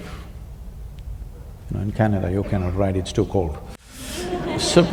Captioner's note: laughter